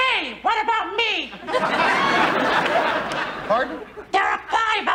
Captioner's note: audience laughing